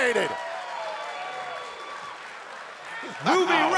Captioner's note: crowd cheers and claps